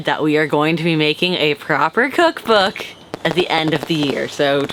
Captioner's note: fireworks crackle